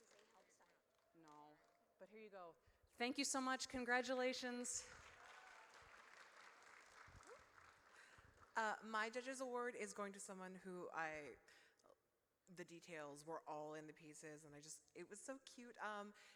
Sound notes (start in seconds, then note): 4.3 applause